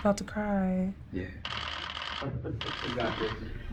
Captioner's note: camera shutters clicking